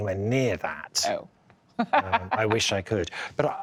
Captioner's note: laughs